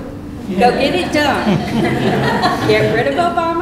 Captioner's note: laughter